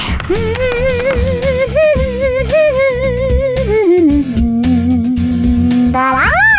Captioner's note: humming